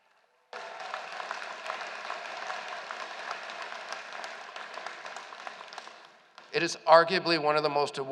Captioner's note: applause